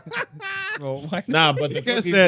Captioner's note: laughing